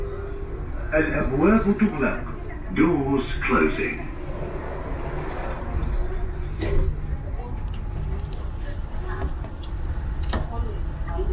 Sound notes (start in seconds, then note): 4.0 Doors Closing